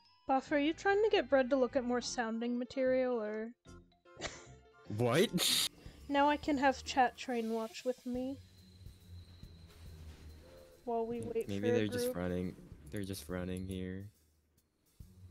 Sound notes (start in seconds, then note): 5.1 laughs